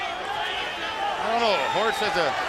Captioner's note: crowd chatter